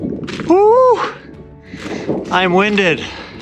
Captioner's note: long exhale